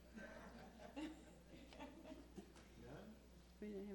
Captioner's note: all laughing